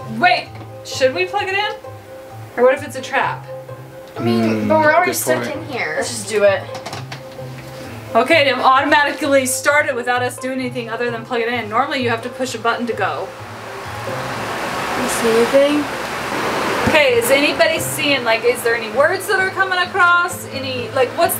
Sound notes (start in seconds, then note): 13.8 fan whirring